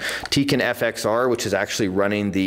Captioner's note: none